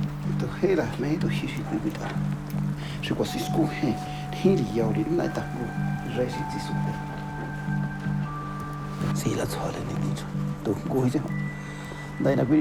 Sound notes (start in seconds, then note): 0.7 speaking Spanish; 9.0 speaking Spanish continues